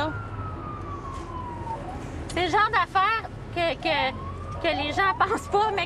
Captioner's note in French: sirènes